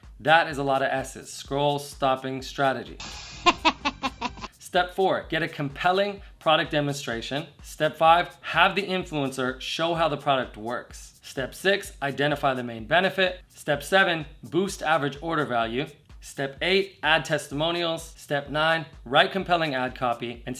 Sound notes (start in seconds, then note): 3.0 man laughs